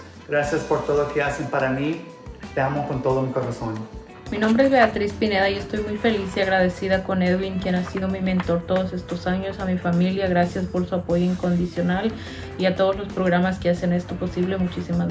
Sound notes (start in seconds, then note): 4.2 speaks in foreign language